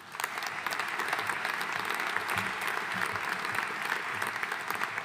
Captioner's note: audience applauding